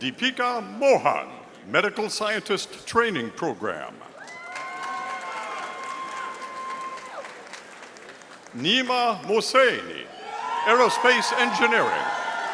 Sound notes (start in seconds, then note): 4.2 audience applauding